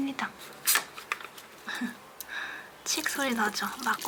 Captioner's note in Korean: em 쌀뜨물 발효액 여는 소리